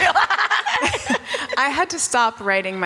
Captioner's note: Selma and Rachel laugh